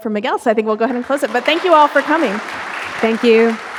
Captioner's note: audience applauding